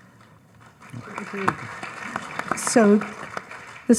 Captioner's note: audience applauds